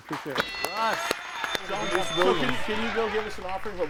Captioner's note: audience applauding